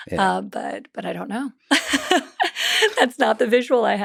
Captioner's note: laughs